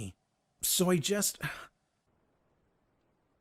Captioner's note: sighs